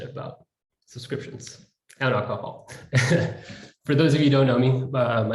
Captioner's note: laughs